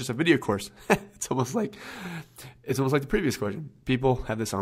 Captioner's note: laughs